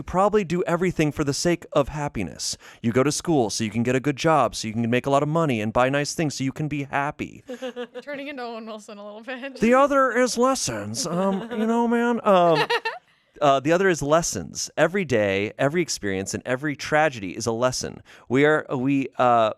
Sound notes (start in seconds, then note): 12.1 laughs